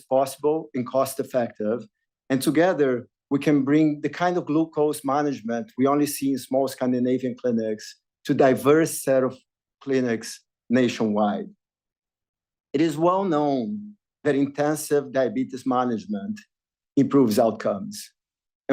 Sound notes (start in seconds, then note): none